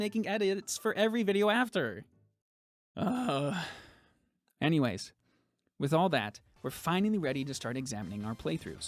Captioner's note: sigh